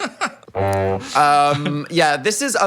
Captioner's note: group laughing; horn honks